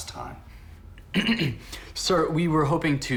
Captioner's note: Lloyd Clears His Throat